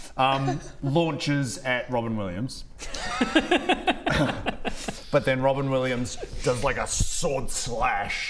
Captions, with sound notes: launches at Robin Williams *laughs* but then Robin Williams does like a sword slash